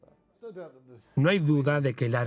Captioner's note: voiceover